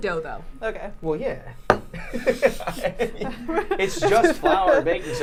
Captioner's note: laughs